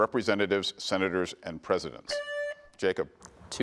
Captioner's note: buzzer beeps